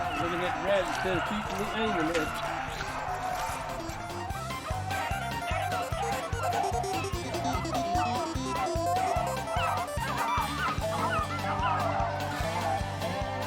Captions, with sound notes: - They're looking at the rabbits instead of chasing them. (dogs barking)